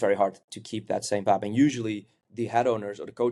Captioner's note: none